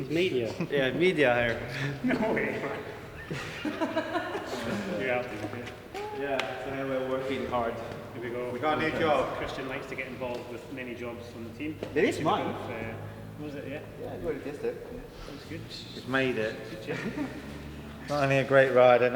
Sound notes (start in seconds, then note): 3.7 laughter